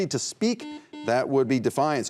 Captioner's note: buzzer beeps